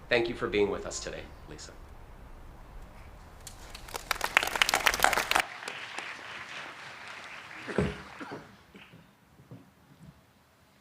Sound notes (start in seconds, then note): 3.5 audience applauding